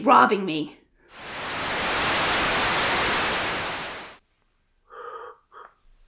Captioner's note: static